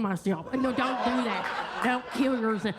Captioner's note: attendees laugh and clap